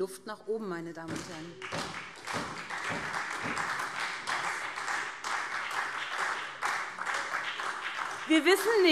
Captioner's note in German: Beifall SPD